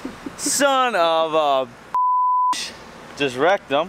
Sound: beep

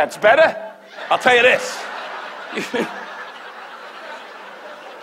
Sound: laughs

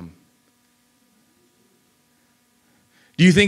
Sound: audience murmurs

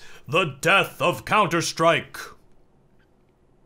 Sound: in overly dramatic voice; awkward silence

